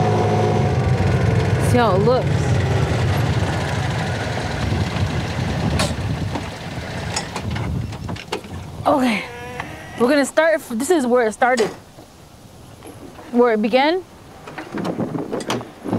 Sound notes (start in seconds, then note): 3.8 engine stopping